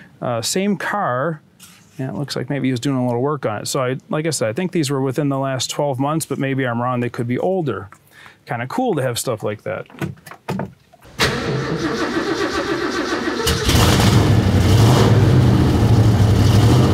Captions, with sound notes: Same car and it looks like maybe he was doing a little work on it, so like I said, I think these were within the last 12 months but maybe I'm wrong, they could be older. Kind of cool to have stuff like that. (engine turning over) (engine rumbling)